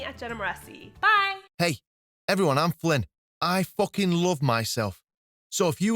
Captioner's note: flippant Male Voice